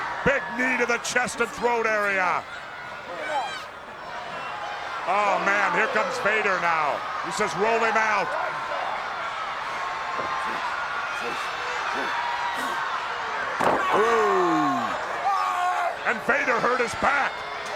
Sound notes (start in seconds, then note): 8.4 crowd yelling; 14.0 Vader yelling